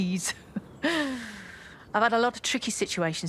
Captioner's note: she chuckles